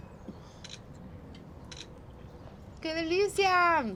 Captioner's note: camera shutter clicks; speaking Spanish